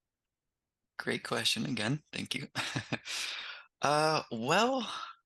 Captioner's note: laughs